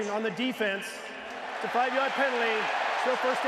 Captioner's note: cheering